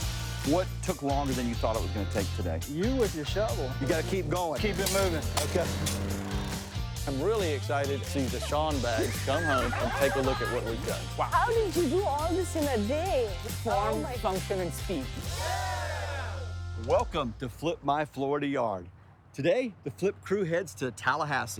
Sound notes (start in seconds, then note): 4.5 machine roaring; 15.3 crew shouting